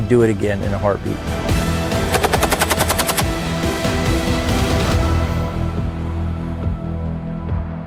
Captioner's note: stirring music; weapon firing